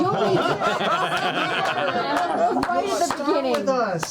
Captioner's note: laughter